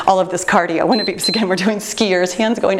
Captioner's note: timer beeps